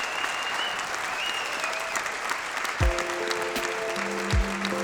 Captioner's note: applause